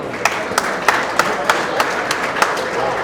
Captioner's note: audience applauds